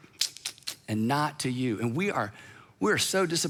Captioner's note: smacks lips